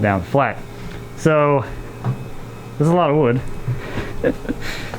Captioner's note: laughs